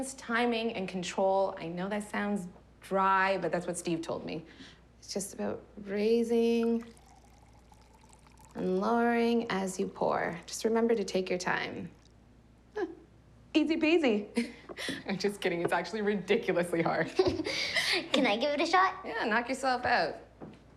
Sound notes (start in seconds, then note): 17.4 laughing